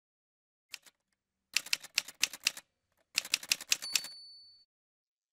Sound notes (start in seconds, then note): 0.7 typewriter sounds